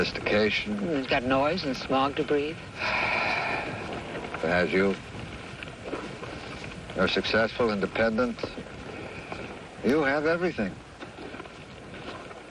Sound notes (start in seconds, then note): 5.6 long sigh